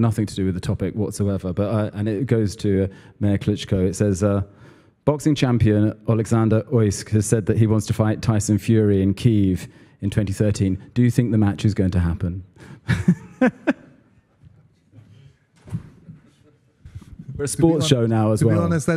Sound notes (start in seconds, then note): 12.9 laugh